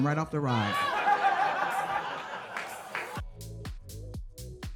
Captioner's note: audience laughs